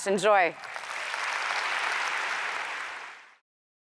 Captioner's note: applause